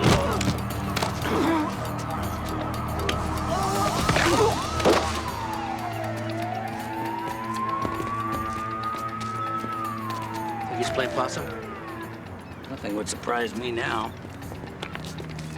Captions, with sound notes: (sirens wailing) (groaning) (cracking) (sirens wailing) Think he's playing possum? Nothing would surprise me now.